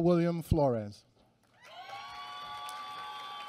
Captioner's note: applause